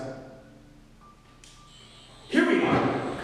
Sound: sonic buzzing

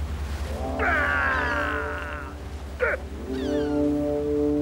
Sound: Te Ariki screaming

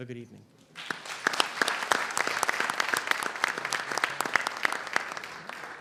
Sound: applause

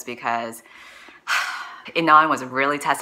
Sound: sigh

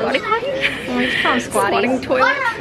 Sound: laughs

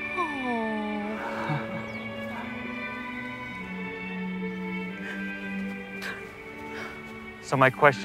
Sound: chuckles weakly

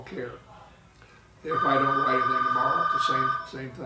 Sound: ringing

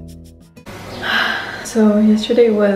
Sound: sigh

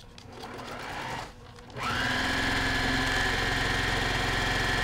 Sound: sewing machine grinding

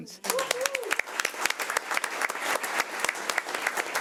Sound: audience clapping

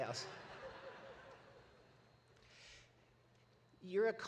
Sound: audience laughs

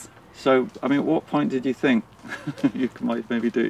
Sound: laughs

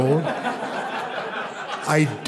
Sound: crowd laughs

